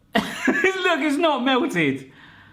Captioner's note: laughs